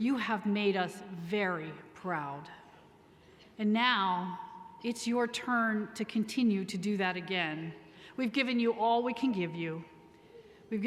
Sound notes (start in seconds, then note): none